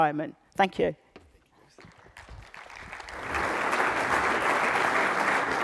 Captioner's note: applause